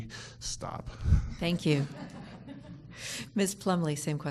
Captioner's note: people laughing